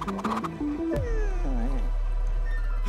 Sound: Prince whimpers

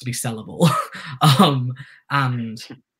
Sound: chuckles

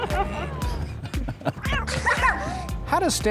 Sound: laughing; upbeat music

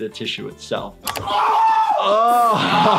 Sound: player shouting

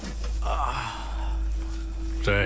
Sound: groans

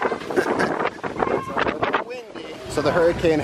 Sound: laughing

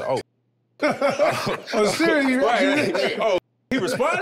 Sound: everyone laughing amusingly

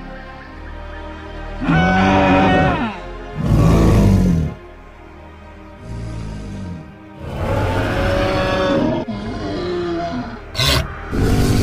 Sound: forest bird sounds; triceratops growling

